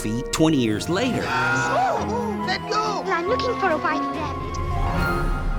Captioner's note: yells